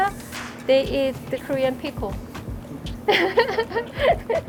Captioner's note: laughs